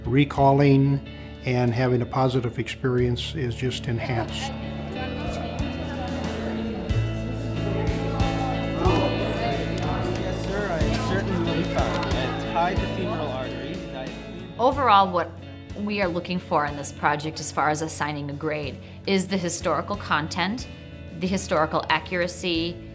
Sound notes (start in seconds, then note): 8.1 indistinct chatter